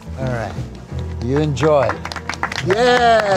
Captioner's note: everyone clapping